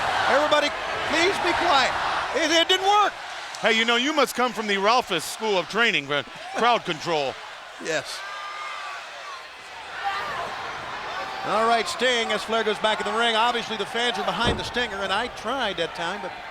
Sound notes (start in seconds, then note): 9.2 crowd cheering